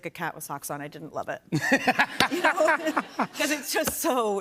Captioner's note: laughs